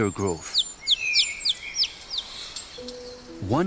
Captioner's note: chirping